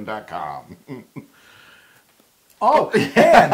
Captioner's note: laugh